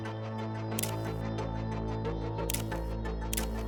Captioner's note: camera shutter clicking